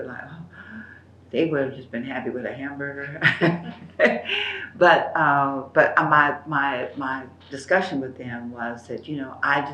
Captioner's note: laughs